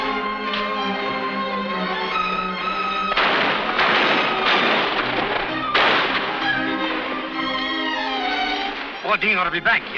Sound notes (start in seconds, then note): 3.1 guns firing; 5.7 upbeat dramatic music